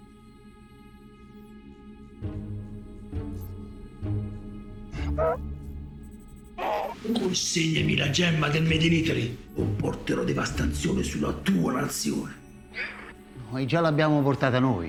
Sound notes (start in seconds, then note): 0.2 tense music continues; 4.9 Donkey's bray